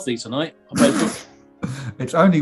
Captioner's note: spluttering